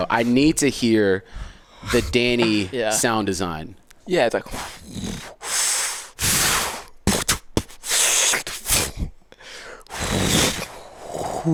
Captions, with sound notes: I need to hear the Danny sound design. - Yeah, it's like (swooshes, grunts, thuds)